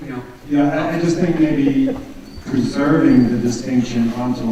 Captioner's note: voiceover